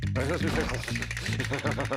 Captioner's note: teeth chattering